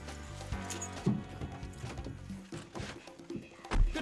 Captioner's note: keys jinglin